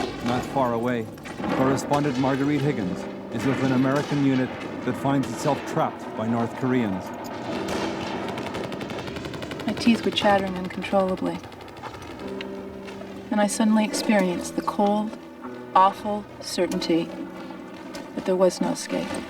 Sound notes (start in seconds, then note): 0.0 gunshots blasting; 7.8 machine guns rattling